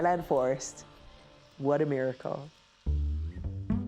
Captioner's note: machine buzzing; playful guitar music